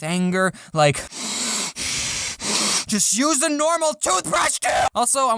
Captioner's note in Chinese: 吸呼吸呼